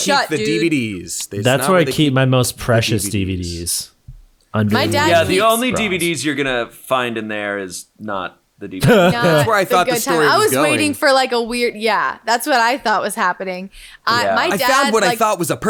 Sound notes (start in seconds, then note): 8.8 laughing